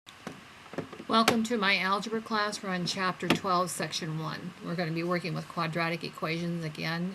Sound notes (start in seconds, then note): 1.3 voiceover